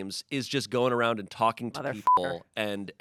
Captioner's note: beep